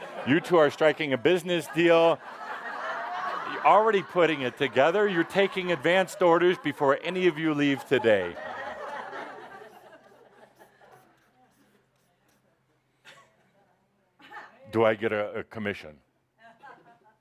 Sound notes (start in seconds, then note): 2.5 laughter